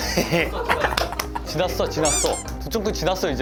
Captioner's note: tsk